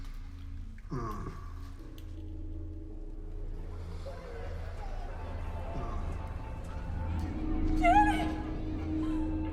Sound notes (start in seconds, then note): 4.4 voices whispering; 9.2 eerie music